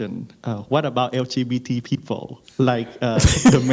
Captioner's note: and audience laughs